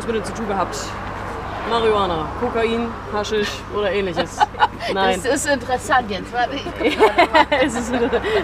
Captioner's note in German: allgemeines Lachen